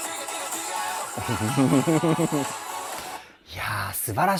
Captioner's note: applause